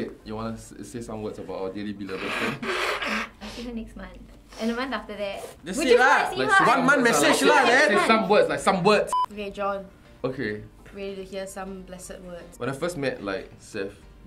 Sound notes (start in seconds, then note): 2.0 snot cleansing